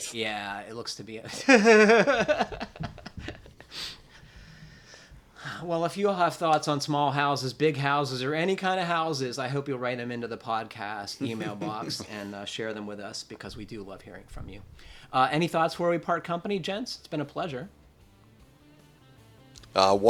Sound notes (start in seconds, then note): 1.3 laughter